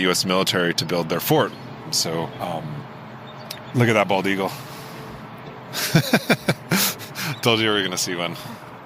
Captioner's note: laughs